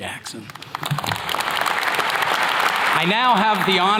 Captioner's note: attendees clapping